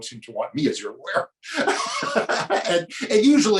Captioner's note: laughs